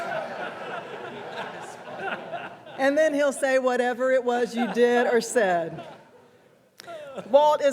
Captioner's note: laughter